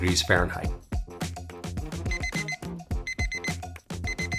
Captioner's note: kitchen timer beeping